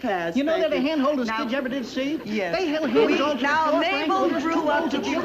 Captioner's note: mixed chatter and banter